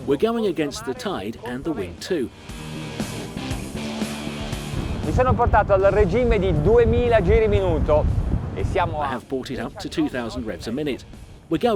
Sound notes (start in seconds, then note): 1.4 rock music; 5.4 speaking in foreign language